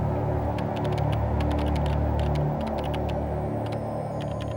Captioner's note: keyboard clacking